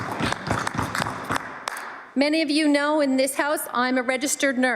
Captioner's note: some Applause